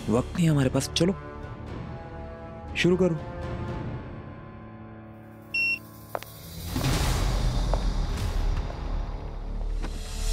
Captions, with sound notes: We don't have much time. Come on. Get started. (machine beeps) (footsteps approaching)